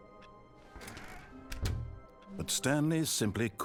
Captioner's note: door closes